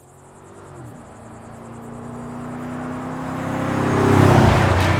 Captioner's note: bug noises; truck engine revving